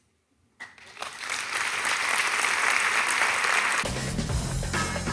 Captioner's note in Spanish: Aplausos